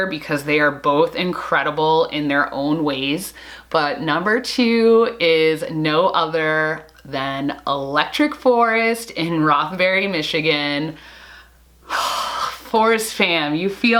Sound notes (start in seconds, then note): 11.9 sigh